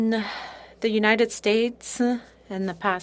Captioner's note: speaking French